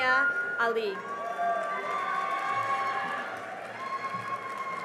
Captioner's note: cheering and applause